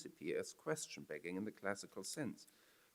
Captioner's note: foreign language